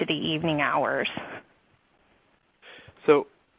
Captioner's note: silence